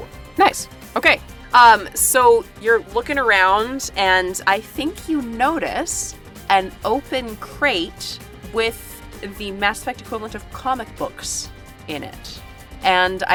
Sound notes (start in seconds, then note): none